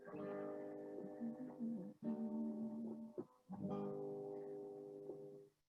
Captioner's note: humming